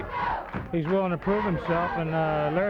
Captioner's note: blows thudding